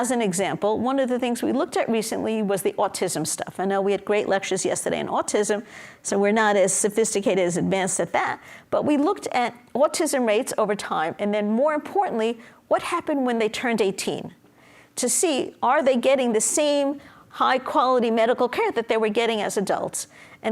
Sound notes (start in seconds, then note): none